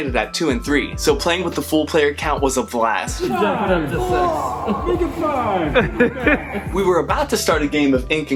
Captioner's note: laughter and fun!